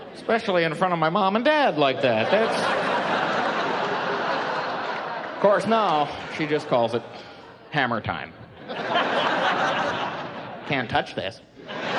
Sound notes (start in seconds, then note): 2.0 laughing